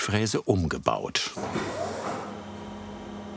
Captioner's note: machine starts